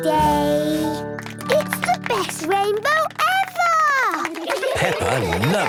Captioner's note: laughter